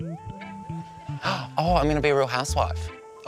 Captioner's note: gasps